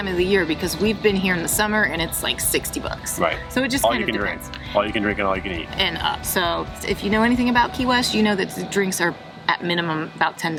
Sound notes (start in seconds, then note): 0.6 people laughing; 3.4 friends chattering